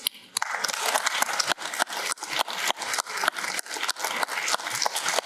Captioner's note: applause